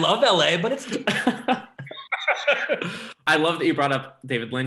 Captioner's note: laughing